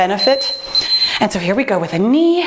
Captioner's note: beeping